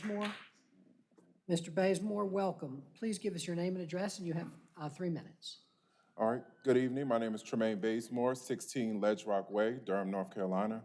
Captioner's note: applause